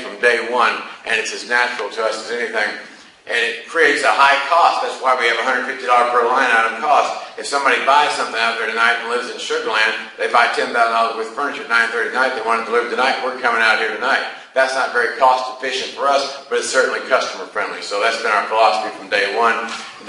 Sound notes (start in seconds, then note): none